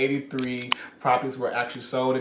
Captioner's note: can opening